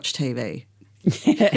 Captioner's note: laughter